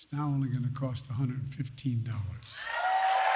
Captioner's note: applause